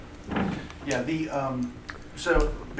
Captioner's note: voiceover